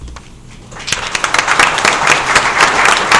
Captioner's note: applause